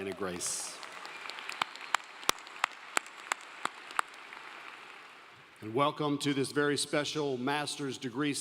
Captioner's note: applause